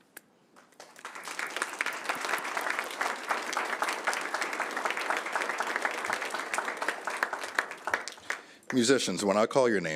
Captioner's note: applause